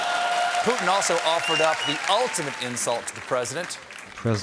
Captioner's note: cheers and applause